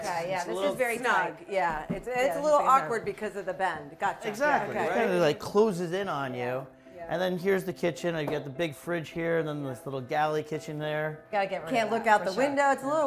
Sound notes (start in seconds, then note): none